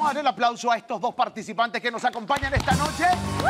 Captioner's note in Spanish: Grita